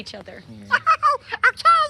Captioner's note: elmo giggles